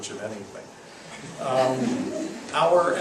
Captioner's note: laughs